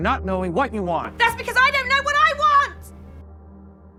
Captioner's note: shouting